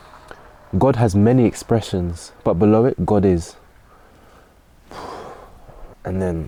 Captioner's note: exhales